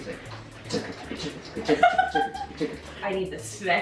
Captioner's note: humming; laughing